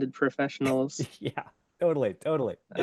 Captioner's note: laughs